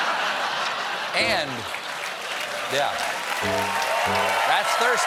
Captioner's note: laughter; applause